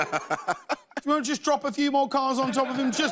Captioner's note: laughter